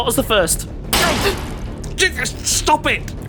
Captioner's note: banging on window